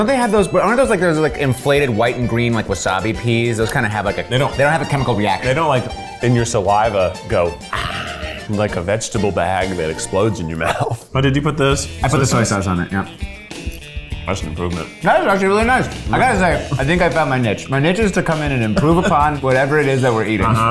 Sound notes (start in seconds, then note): 10.3 laughs